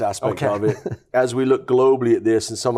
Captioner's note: chuckles lightly